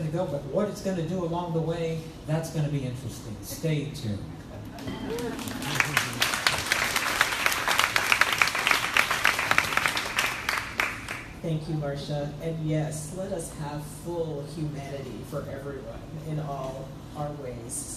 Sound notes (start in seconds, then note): 4.5 crowd laughs; 4.8 crowd applauding